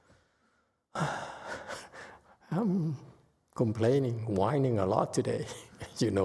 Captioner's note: sighs